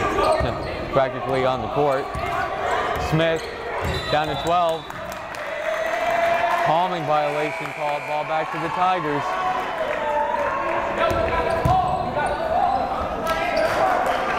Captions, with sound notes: (yelling) Practically on the court. Smith, down to 12. (whistle blowing) Homing violation called, ball back to the Tigers. (yelling)